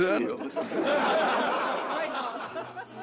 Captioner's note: crowd laughing